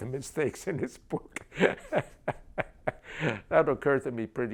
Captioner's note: laughs